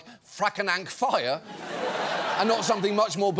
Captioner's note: audience laughs